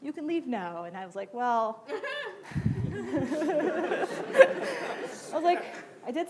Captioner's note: laughing